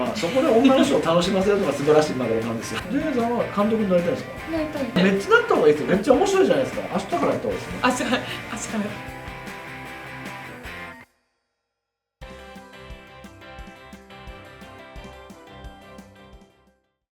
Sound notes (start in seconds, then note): 7.7 laughs